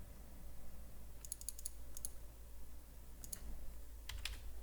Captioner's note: mouse clicks